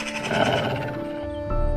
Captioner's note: growl